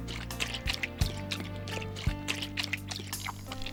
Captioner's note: licking